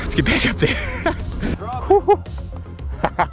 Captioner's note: laughing